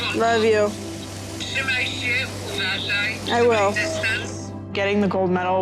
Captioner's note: in Polish